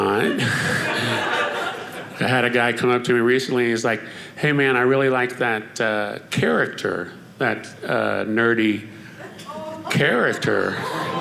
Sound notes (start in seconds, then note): 0.4 audience laughing